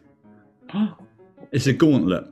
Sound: gasps

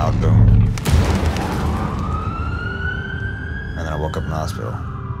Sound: ambulance siren

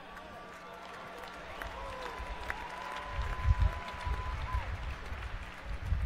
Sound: audience applauding and cheering

